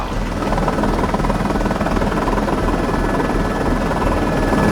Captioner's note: helicopter